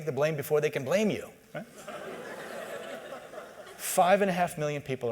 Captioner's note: laughter